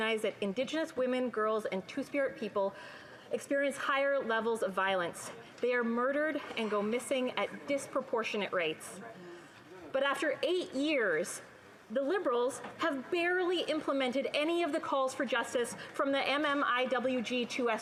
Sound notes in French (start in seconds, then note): 3.4 voix de l'interprète